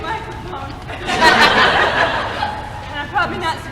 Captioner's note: laughter